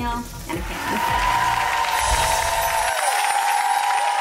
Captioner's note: crowd cheering